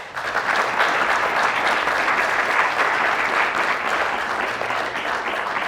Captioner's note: applause